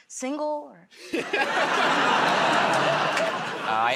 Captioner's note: laughter